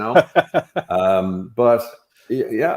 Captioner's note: laughing